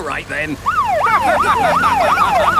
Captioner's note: siren wailing; laughing